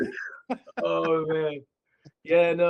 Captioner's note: laughing